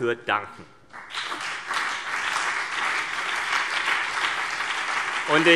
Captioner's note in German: Beifall CDU und BÜNDNIS 90/DIE GRÜNEN